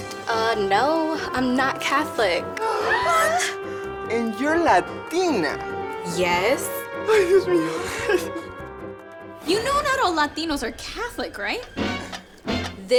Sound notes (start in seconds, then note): 2.5 all gasp